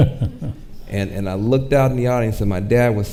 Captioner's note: chuckles